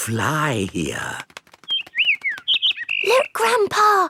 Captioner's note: bird